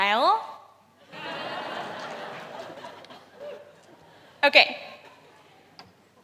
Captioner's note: laughter